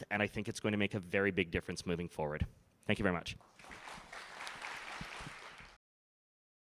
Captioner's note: applause